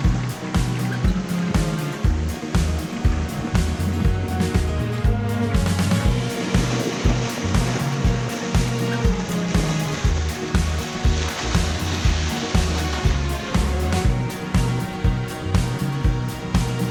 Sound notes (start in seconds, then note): 8.0 water rushing